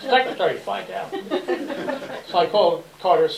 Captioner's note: laughter